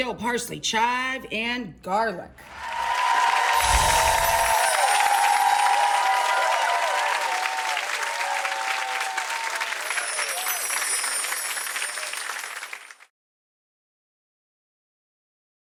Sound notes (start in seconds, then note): 2.8 audience clapping and cheering; 9.8 gentle chiming